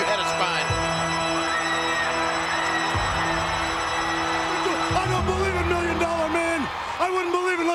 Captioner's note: applause